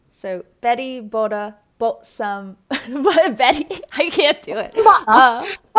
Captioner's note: fake Australian accent